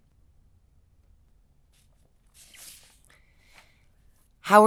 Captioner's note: page turning